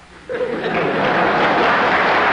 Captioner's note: applause